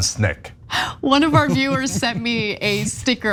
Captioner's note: laugh